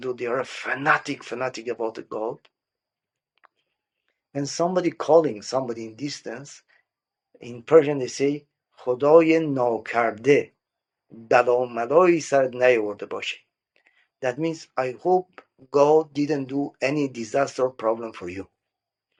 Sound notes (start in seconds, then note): 10.4 speaking Persian